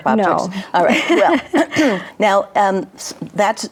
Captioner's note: laughs